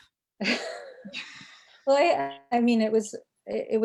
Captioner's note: chuckling